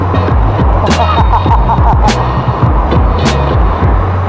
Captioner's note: laugh